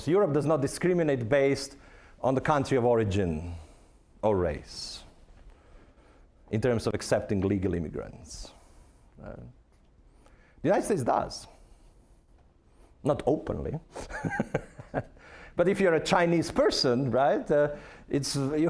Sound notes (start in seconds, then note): 14.0 laughing